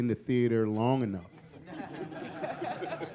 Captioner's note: laughter